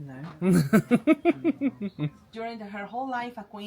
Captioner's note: laughing